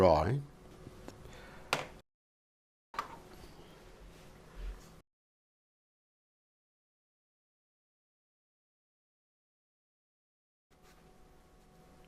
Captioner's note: silence